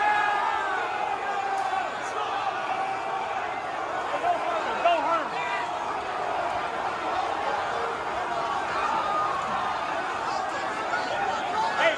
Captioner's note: shouting